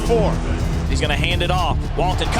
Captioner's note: voiceover